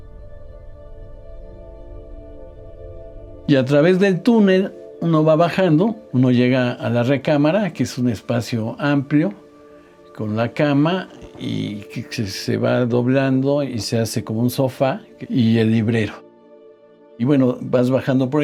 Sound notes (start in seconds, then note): 3.5 continues in Spanish